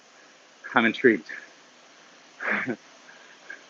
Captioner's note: laughs